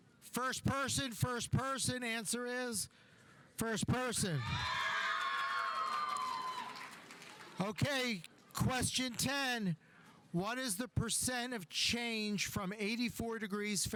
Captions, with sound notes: First person, first person. Answer is first person. (audience applauding) (audience cheering) Okay. Question 10. What is the percent of change from 84 degrees